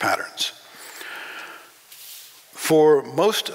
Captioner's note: breathing